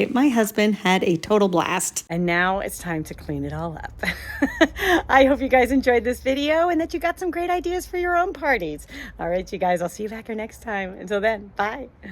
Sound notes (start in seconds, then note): 3.9 laughs